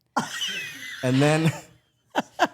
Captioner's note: Stephanie laughs